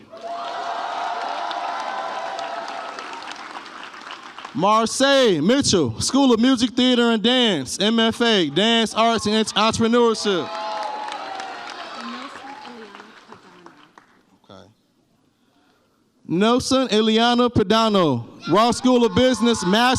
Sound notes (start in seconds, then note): 0.0 audience cheers; 10.9 audience cheers